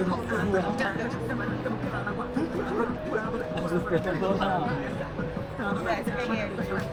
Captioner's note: people chattering